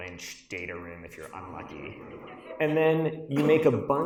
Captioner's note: audience laughs